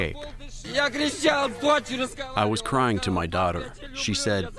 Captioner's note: through translator